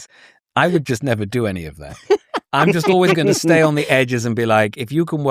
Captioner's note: laughter